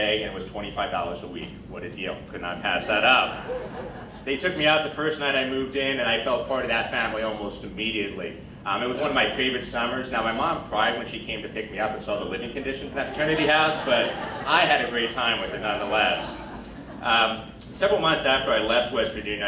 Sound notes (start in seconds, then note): 3.2 crowd laughing